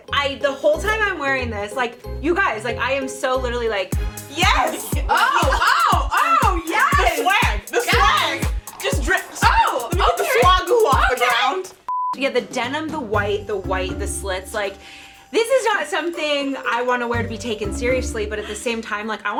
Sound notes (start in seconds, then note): 4.1 dance music; 11.8 beep